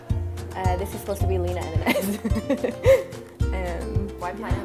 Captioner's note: chuckles